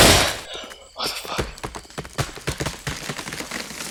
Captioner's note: gasping for breath